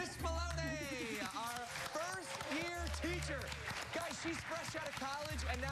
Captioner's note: applause